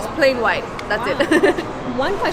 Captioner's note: giggles